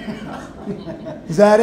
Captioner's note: laughing